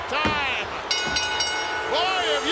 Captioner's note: bell rings